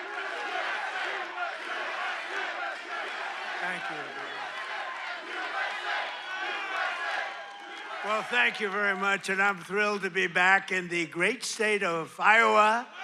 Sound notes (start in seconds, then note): 0.0 cheers and applause; 0.0 audience chants "USA"